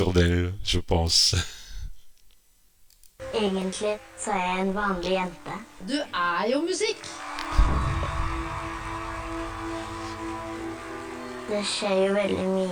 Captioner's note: applause